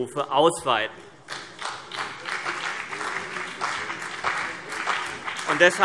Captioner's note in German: Beifall CDU und BÜNDNIS 90/DIE GRÜNEN